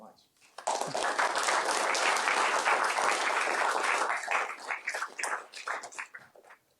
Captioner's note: applause